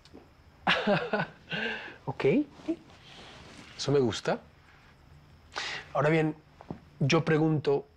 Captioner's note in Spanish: Risas